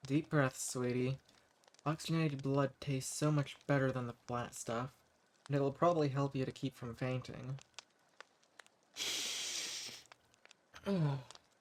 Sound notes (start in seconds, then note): 9.0 sniffs